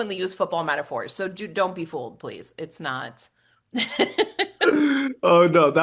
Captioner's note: laugh